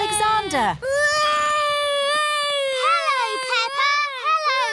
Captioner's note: continues wailing